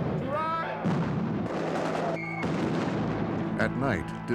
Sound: explosions

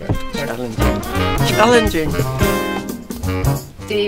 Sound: laughs

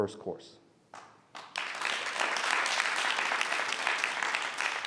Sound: audience applauds

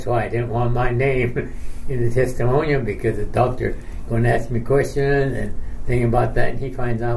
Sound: chuckles

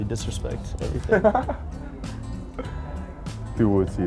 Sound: laughing

